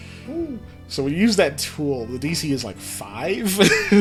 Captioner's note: laughs